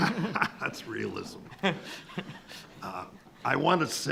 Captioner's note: laughing